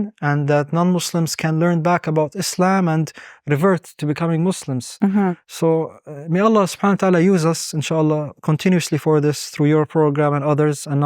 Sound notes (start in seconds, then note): 5.9 speaking Arabic